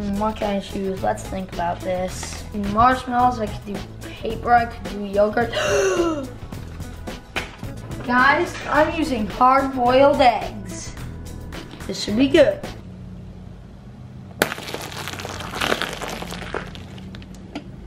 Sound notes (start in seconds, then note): 5.5 gasps; 14.4 crunching egg shells